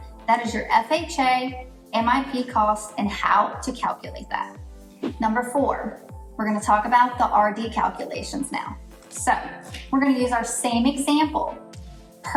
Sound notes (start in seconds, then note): 4.9 air whooshes